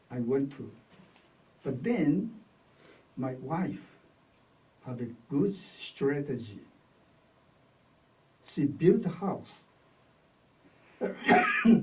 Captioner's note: coughs